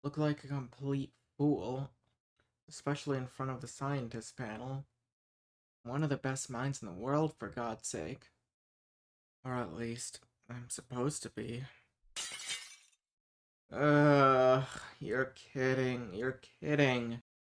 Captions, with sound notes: look like a complete fool especially in front of the scientists’ panel I’m one of the best minds in the world, for God’s sake Or at least… I’m supposed to be (glass shattering in the distance) (groans) You’re kidding. You’re kidding